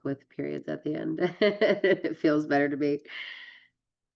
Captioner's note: laughs